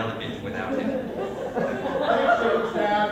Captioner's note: laughter